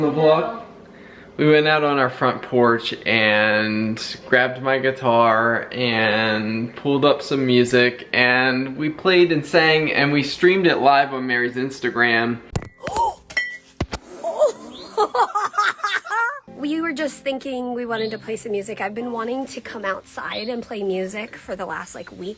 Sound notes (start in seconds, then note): 12.1 clinking; 12.1 gasps; 14.0 laughing